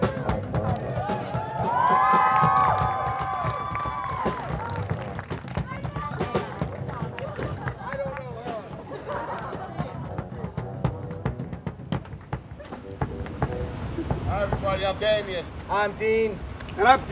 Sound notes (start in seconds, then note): 0.9 audience cheers; 1.0 audience applauds; 9.9 slow music continues